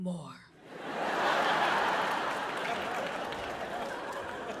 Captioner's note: audience laughing